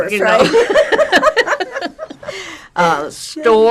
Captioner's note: laughing